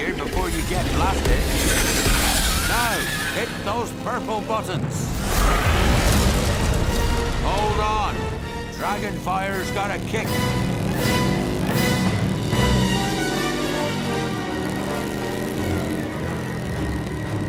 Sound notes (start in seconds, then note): 11.4 motorbike revving